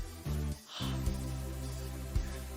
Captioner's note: exhales loudly